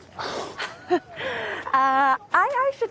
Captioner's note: laughs